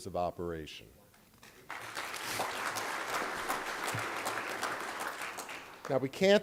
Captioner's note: applause